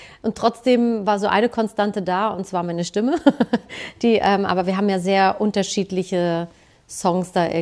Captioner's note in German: gelächter